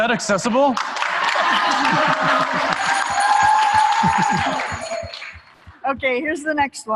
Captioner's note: applause